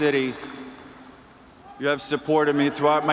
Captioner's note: cheers and applause